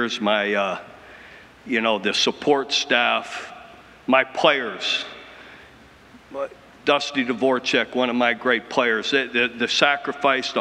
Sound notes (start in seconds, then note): none